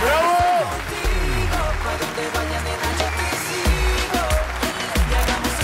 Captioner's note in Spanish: Aplausos